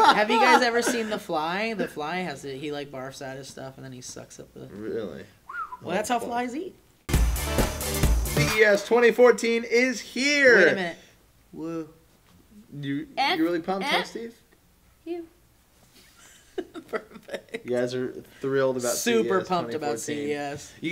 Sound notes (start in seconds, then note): 5.4 whistles